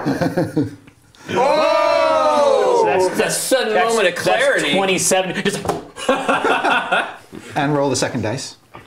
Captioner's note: die rolls, cheers